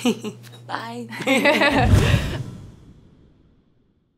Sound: laughter

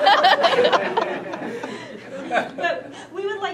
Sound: participants laughing

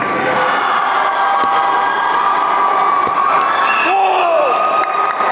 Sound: applause

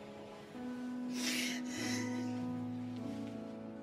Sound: sniffing

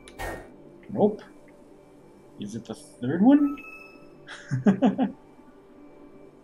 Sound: chuckles

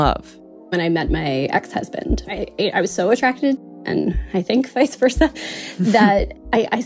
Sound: laughs

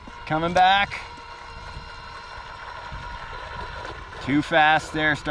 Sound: motor buzzing

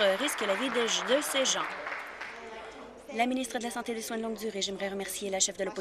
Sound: applause

